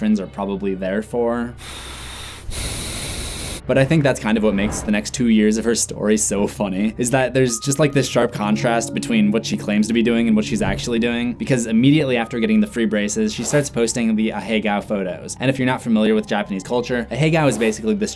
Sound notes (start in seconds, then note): 1.6 heavy breathing cat